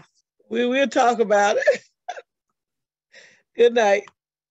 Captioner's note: chuckles